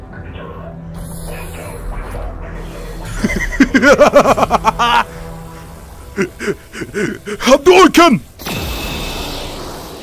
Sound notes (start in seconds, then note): 3.0 le evil laughe